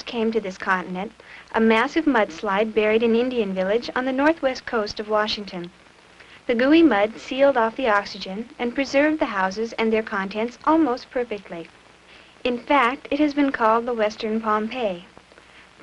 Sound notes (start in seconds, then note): none